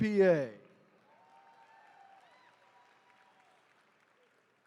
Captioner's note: attendees cheering